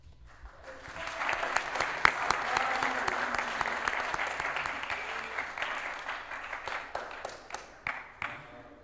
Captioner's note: applause